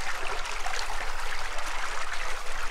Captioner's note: quiet splashing